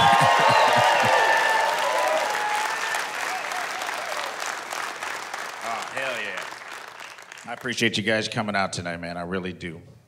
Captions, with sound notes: [cheers, woos] Oh, hell yeah. I appreciate you guys coming out tonight, man. I really do.